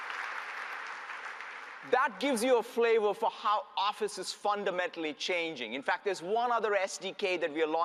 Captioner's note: applause